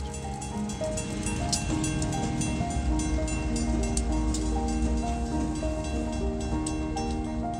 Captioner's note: bell ringing